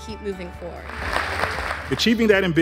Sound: audience applauds

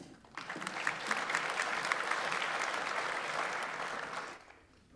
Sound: audience applauds

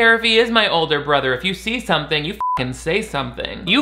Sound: beep

